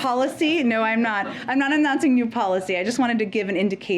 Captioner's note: laughter